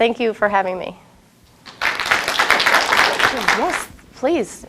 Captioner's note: applause